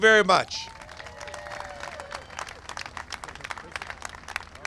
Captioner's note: cheers and applause